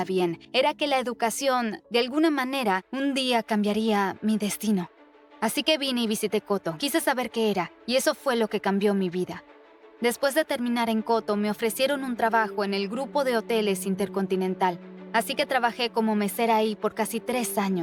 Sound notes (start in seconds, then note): none